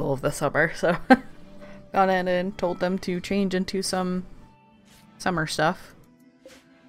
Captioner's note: laughs